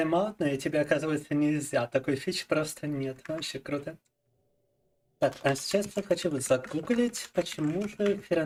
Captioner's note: speaking in Russian